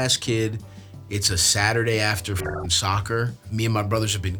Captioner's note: beeps